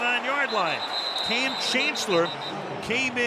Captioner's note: whistle